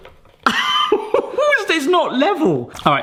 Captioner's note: laughing